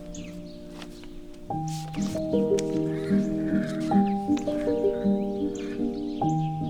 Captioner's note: note rustling; horse whinnying